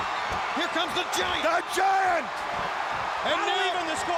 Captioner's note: audience cheering